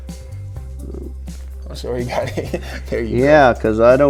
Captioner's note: laughing